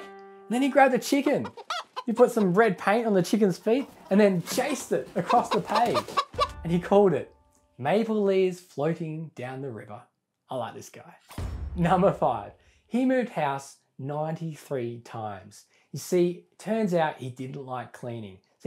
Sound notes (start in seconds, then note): 5.8 chicken noises